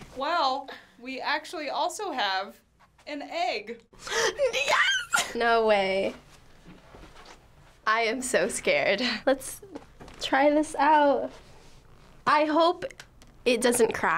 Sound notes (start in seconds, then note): 4.1 gasping